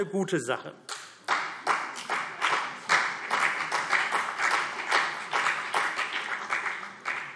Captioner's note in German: Beifall